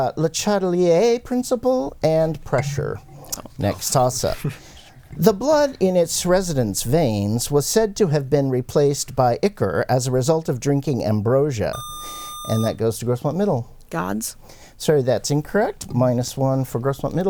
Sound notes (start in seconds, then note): 11.7 buzzer